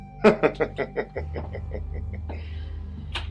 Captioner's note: laughing